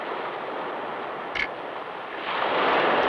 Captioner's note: camera clicks